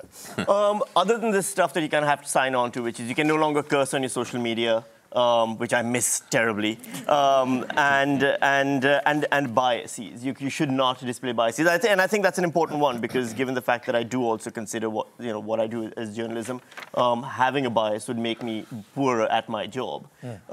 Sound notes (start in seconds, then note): 7.1 laughter